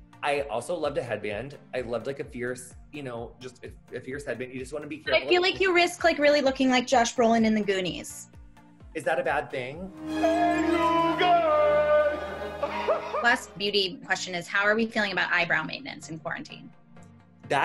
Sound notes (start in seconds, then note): 8.3 dramatic music; 12.5 laughs